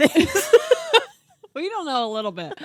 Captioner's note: laughing